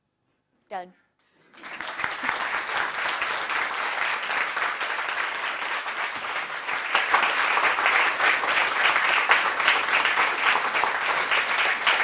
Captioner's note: applause